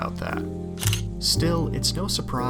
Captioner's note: camera shutter